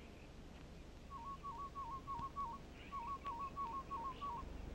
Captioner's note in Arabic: نداءات الطيور